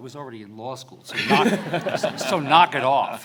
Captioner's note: audience laughs